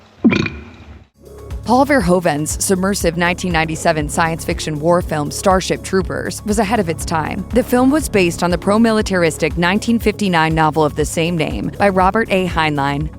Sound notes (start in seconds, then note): 0.2 burps